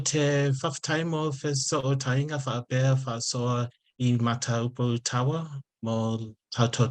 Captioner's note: continues speaking in Samoan